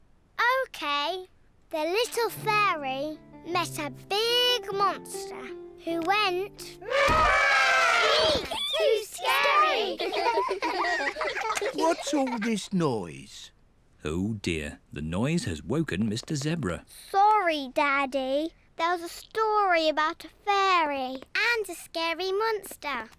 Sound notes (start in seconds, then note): 6.8 trumpets; 10.3 all laughing